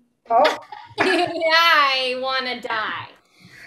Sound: fake laugher

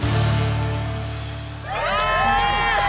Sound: cheers

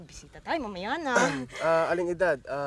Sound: coughs

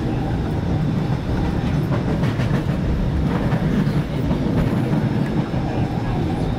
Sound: train clattering / crossing track

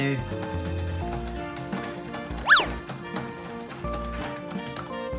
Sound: laptop keys clicking

